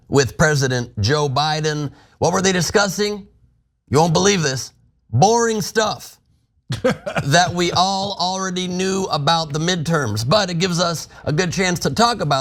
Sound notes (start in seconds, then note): 6.7 laugh